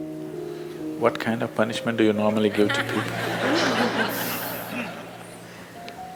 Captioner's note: laughter